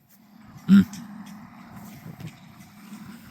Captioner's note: car engine roaring